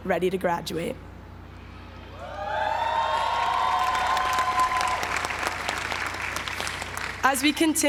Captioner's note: applause